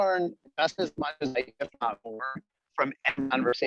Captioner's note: cell phone static